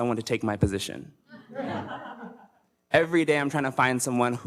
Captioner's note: audience laughs